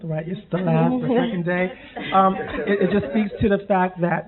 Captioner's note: murmuring and laughing